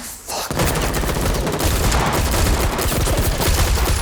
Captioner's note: guns shooting